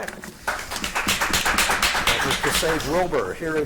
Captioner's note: audience applauding